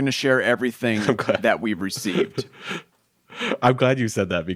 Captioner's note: chuckles